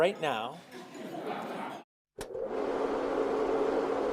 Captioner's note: laughing